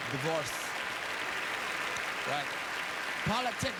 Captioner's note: applause